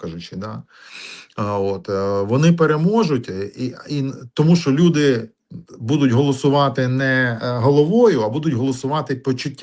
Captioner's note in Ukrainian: сопіння